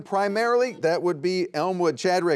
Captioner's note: buzzer beeps